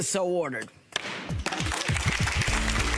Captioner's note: gavel banging; audience applauding